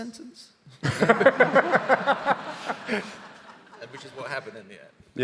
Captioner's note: audience laughing